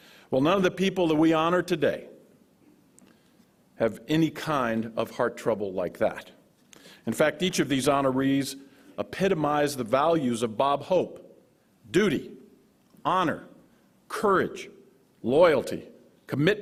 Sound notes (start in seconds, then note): none